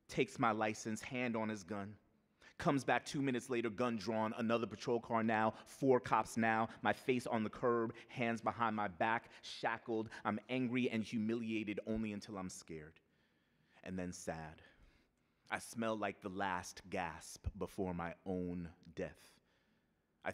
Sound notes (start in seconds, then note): none